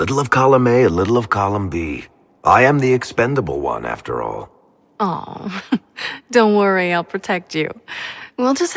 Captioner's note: chuckles